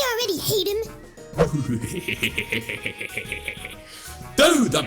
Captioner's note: count bleck chuckling mischievously